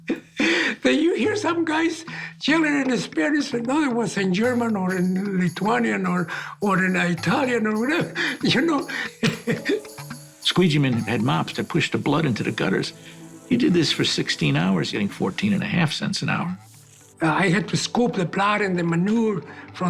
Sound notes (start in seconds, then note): 9.0 laughs